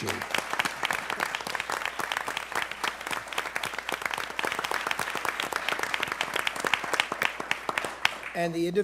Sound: applause

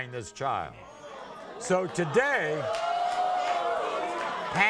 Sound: audience groans

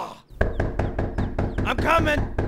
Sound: knocking continues, louder

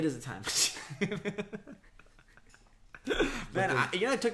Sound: laughs

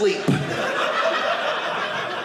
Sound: audience laughing

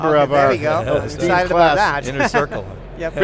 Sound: laughing

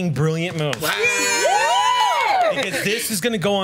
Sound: group cheers

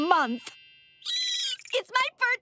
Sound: squealing

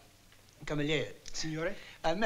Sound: speaking italian

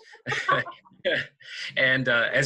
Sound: laughing

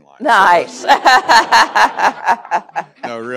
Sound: laughs

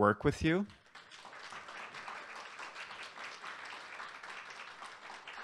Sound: applause

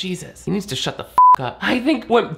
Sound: beep

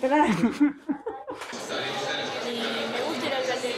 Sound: laughs

